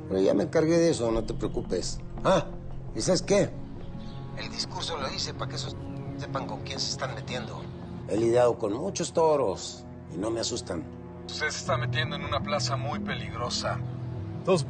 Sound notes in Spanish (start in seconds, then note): none